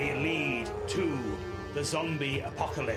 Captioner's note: zombie noise